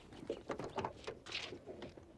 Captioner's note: none